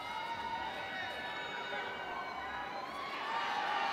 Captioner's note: audience cheering